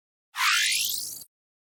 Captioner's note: high-pitched electronic sound